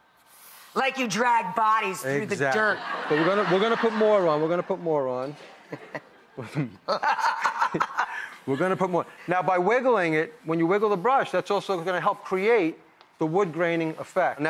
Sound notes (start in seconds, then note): 2.4 laughter; 6.8 both laughing